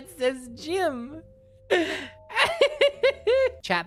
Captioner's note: laughs at the new feature